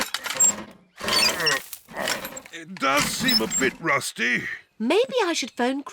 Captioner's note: groans